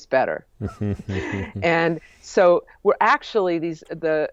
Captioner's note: chuckles